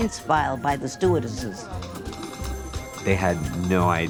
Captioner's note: keys clacking